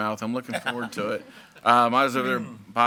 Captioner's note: group laughs